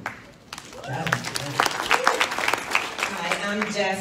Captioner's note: audience applauds